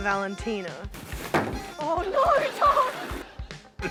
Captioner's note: laughs